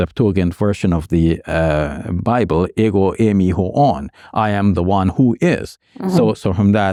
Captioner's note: speaking Arabic